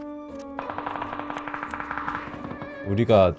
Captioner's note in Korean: 싸우는 소리